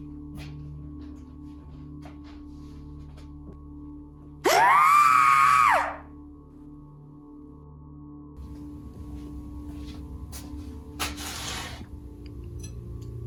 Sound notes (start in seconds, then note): 4.4 Agent 37 screaming